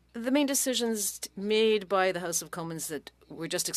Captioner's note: speaking French